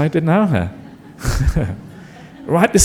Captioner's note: laughter